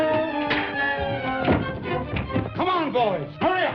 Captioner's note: bangs; punches